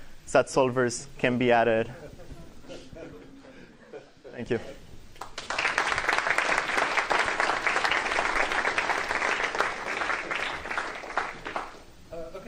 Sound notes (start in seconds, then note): 5.2 applause